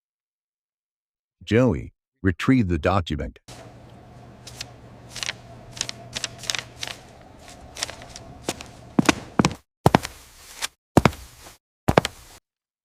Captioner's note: sound of paper shuffling